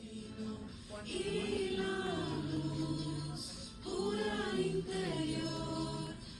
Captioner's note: chanting